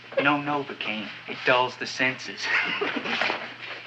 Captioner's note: chuckles